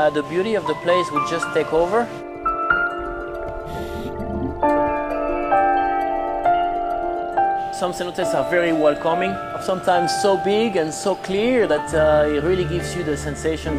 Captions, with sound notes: the beauty of the place will just take over. (chimes ringing) Some cenotes are very welcoming, sometimes, so big and so clear, that it really gives you the sensation